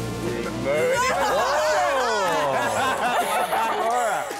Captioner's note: all cheering